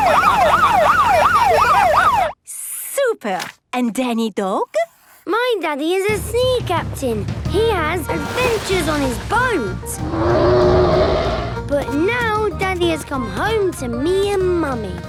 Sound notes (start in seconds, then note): 0.0 laughing; 0.0 siren wailing; 10.0 loud roar